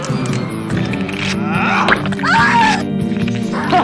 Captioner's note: blood squirting; flesh tearing; screams